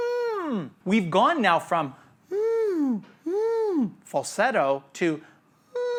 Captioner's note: imitating a whining dog; imitating a whining dog